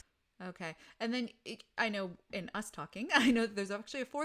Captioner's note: laughs